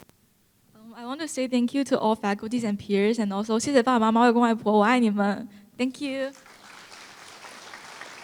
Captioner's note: foreign Language